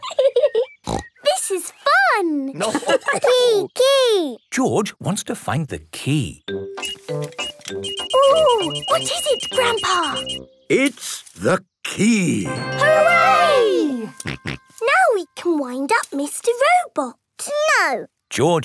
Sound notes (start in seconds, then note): 2.4 giggling and snorting; 2.8 laughter; 6.5 beeping; 13.9 snorting